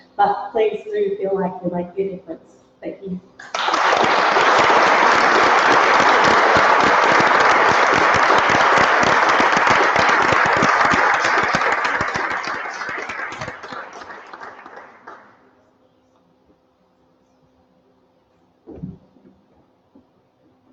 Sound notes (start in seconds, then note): 3.4 applause